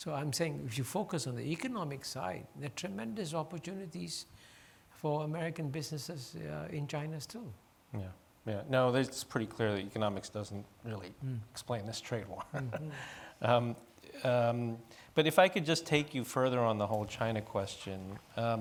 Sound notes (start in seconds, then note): 12.2 chuckles